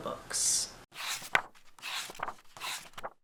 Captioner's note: pages turning